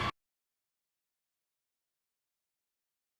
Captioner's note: silence